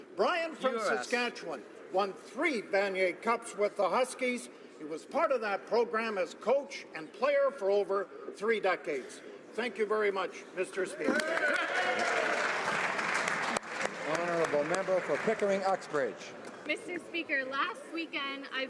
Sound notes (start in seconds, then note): 15.3 some Applause